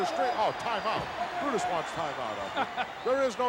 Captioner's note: chuckles